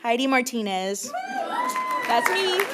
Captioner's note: applause